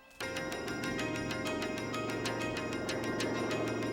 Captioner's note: engine whirring